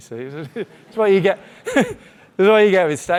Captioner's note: chuckling